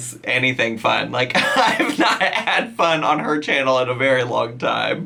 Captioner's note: laughs